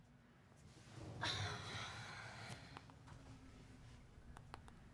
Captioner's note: Fern sighs